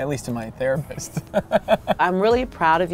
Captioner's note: laughs